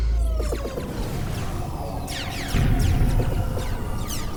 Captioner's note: ships exploding